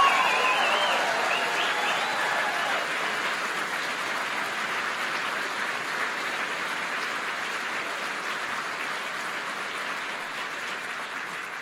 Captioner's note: applause